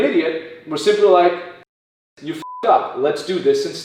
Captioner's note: beep